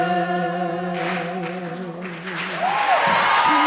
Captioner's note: applause